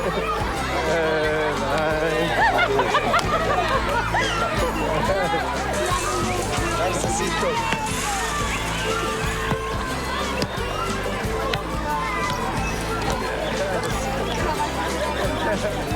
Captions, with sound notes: promised to send some out for them. (Laughing) Nice to see you, too.